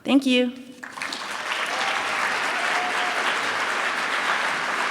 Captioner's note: applause